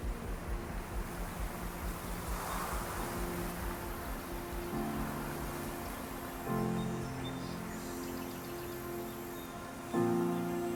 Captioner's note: wind, birds